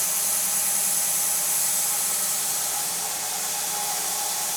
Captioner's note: none